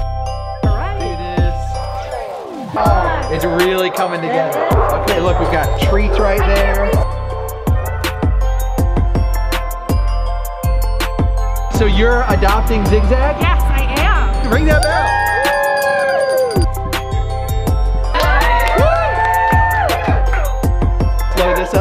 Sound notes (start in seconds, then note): 0.1 upbeat music; 14.7 everyone cheering; 18.1 more cheering